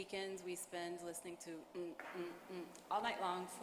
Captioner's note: imitates bass drum playing